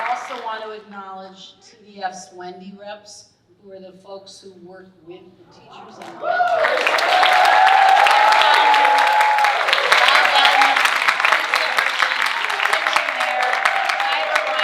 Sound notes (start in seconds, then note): 6.7 audience cheering and applauding; 8.8 audience cheering drowns out speaker